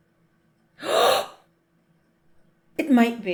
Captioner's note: gasp